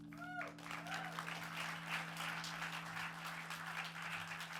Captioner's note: audience applauds and cheers